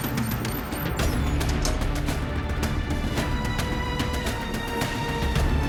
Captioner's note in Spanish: Pitidos